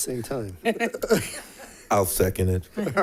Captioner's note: laughter